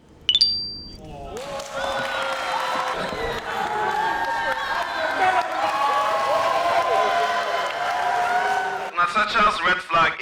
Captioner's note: crowd cheering